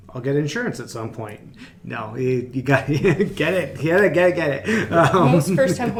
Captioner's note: laughs